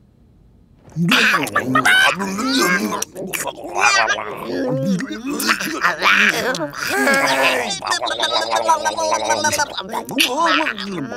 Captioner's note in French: Bruits de french